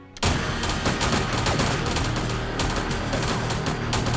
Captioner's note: guns firing